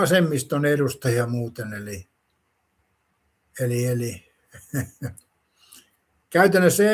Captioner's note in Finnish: naurua